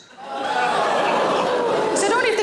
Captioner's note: audience exclaiming